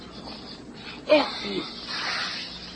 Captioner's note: air blows